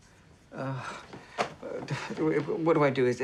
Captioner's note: groans